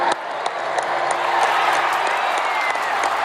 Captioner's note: crowd cheering